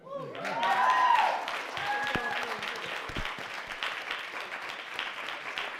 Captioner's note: cheers and clapping